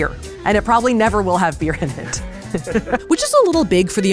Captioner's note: laughs